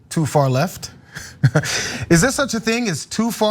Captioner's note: laugh